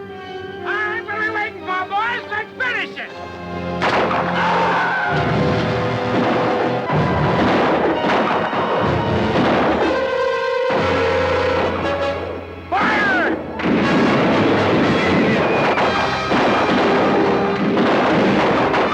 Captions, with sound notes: - Alright, what're we waitin' for, boys, let's finish it! (gun fires) (Apache screams) (guns fire) - Fire! (guns fire) (dramatic orchestral music)